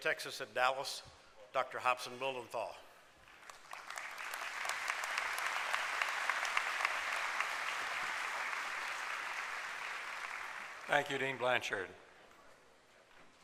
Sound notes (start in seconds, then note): 4.3 applause